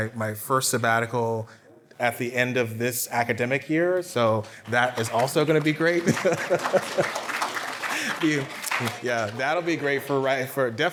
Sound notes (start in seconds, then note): 4.6 applause